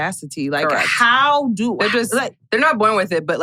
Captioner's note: stammers